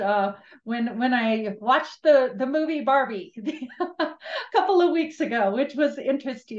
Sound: chuckles

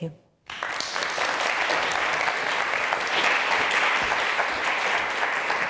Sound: audience applauding

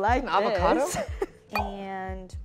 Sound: chuckles

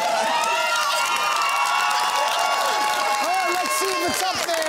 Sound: cheering and applause

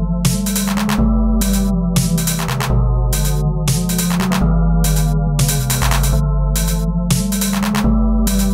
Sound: clank clank clank clank

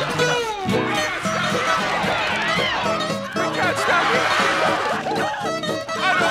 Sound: screaming

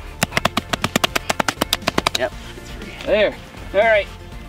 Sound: ax hacking

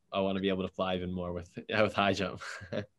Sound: laughs

